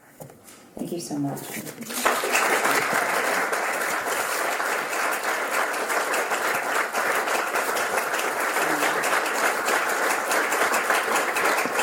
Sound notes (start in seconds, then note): 1.7 applause